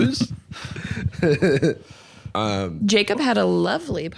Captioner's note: laughs